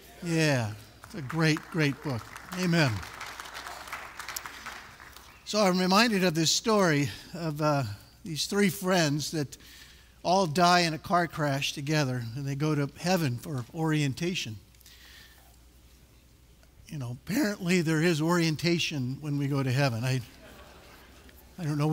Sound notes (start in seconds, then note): 0.9 applause; 20.3 laughter